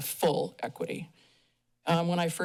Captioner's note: pause